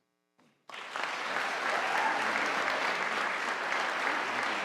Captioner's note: audience applauding